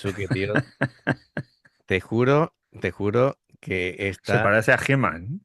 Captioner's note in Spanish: risas